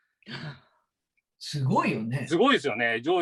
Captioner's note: sigh